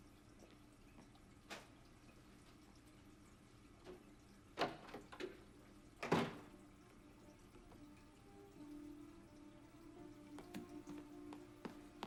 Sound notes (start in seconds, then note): 4.7 door bangs